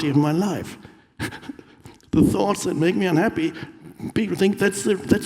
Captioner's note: chuckles